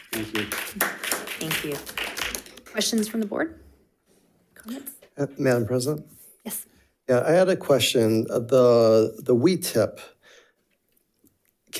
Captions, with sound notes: Thank you. (audience clapping) - Thank you, questions from the board, comments. - Madam President? Yeah, I had a question. The WeTip can the WeTip,